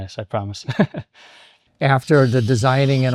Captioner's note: laughing